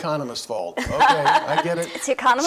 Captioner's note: laughs